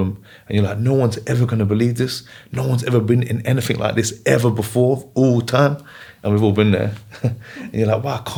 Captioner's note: laughs